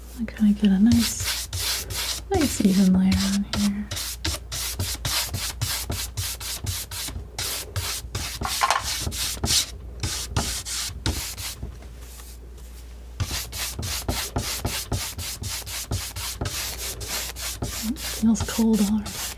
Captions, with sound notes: I kinda get a nice, nice even layer on here. (scratching) Feels cold already.